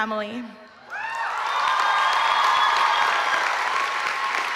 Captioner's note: applause